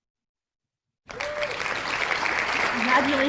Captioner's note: loud applause